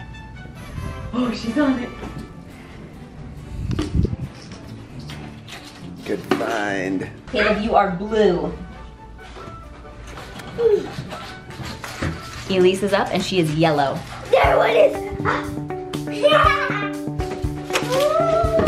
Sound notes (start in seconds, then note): 0.0 upbeat music; 14.5 laughing